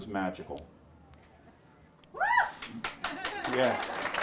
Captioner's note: audience applauds